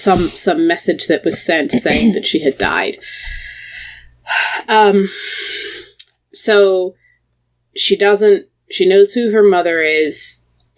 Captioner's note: sighs